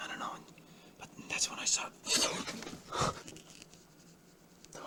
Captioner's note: gasp